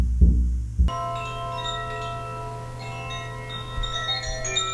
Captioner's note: chimes ringing